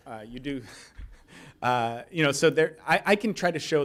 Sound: chuckles

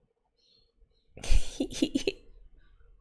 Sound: gleeful giggle

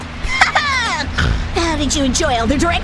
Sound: snort

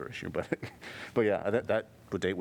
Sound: laughter

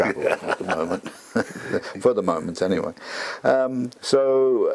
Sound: laugh

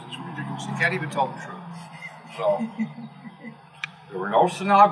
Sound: laugh

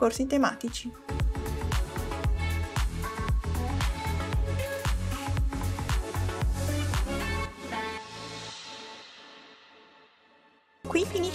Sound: in Italian

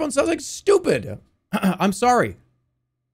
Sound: clears throat

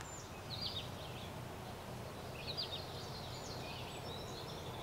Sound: birds chirping

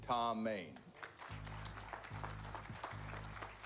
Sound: applause

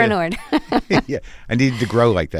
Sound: laughter

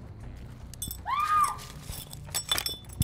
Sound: screaming

